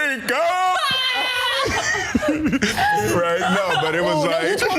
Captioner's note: laugh